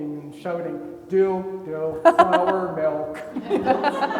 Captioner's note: laughing; everybody laughing